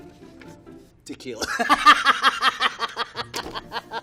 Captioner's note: laughing